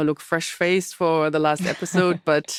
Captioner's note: laughs